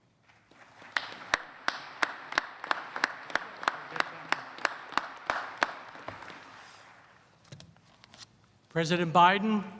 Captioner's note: applause